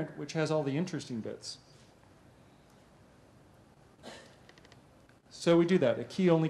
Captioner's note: pause